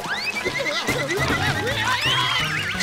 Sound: screaming

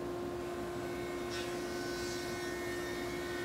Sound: saw zings

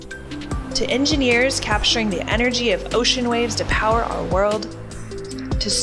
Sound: ocean waves; airplane taking off

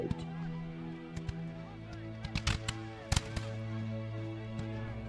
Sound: guns cocking, men shouting; dramatic music

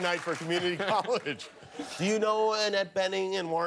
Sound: cheers and applause

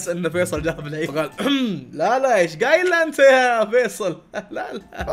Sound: clears throat; laughs

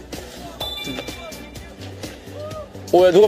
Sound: loud voice from the far away

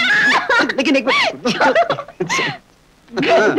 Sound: laughing

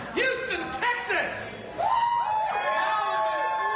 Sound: cheering and Applause

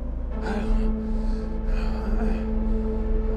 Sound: gasping

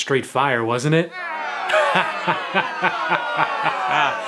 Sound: crowd yells; laughs

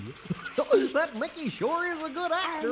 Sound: distant Goofy chuckling

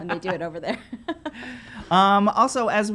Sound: laughing

